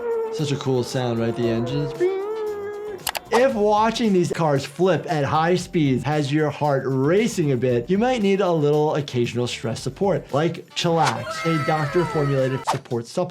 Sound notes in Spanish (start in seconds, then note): 2.0 el doctor imita el motor